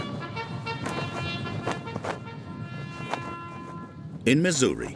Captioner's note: flag rustling